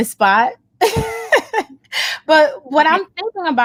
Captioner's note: laughs